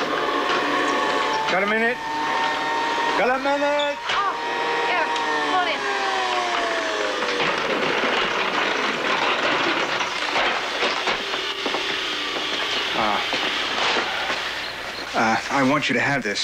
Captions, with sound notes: Got a minute? (YELLS) Got a minute? Oh! Yeah. Come on in. (WHIRRING STOPS) Uh... Uh, I want you to have this for tomorrow.